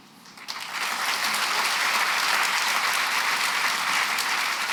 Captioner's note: applause